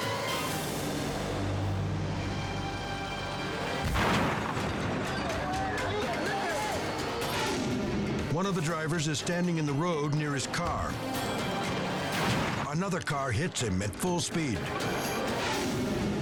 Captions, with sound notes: (car crashing) One of the drivers is standing in the road near his car. Another car hits him at full speed.